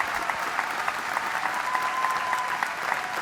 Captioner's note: applause